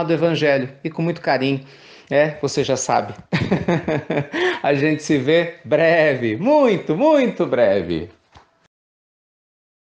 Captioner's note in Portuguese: risos